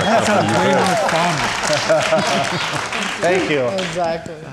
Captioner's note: laughing and applauding